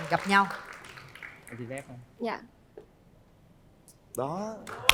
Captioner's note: applause